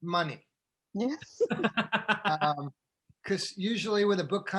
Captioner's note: all laughing